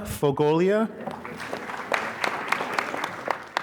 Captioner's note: applause